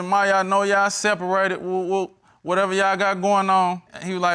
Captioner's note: stutters